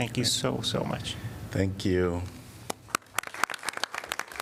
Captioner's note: applause